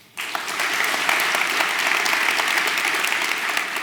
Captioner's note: applause